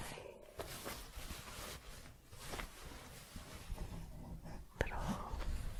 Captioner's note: shuffling, light crinkling